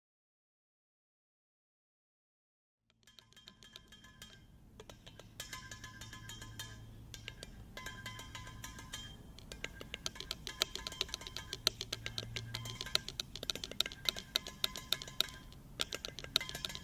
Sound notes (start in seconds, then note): 4.8 clattering sounds